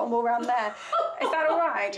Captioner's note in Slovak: smiech